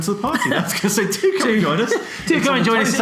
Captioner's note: laughs